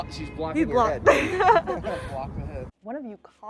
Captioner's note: laughs